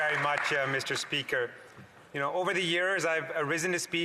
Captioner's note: applause